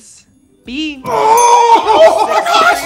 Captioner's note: bell dinging